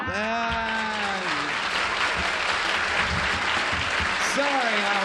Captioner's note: applause